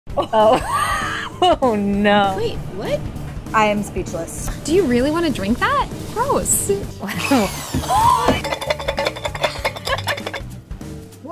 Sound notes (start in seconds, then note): 7.0 laughing; 7.0 drill whirring; 7.7 clanging